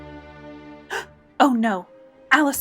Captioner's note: dramatic music; gasps